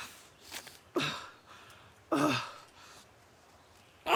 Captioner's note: paper tearing